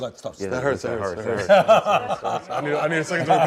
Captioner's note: laughter